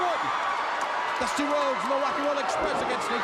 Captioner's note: crowd cheering